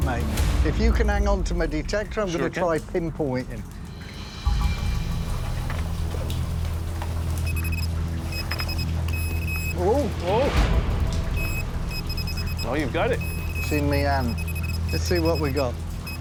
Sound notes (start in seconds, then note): 7.0 high-pitched beeps; 11.3 rapid beeping